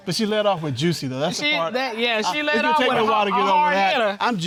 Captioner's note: stammers